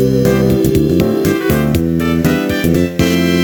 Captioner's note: vroom!